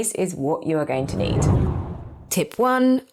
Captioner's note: air whooshing